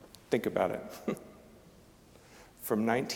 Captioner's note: chuckling